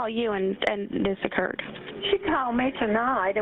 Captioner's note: 911 recording